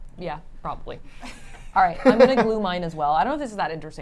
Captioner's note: laugh